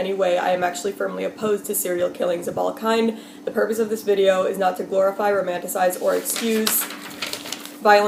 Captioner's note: turns page